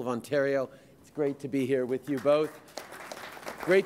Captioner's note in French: Applaudissements